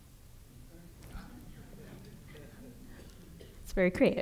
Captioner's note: audience chuckling